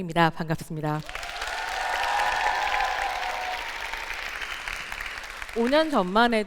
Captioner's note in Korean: 박수와 환호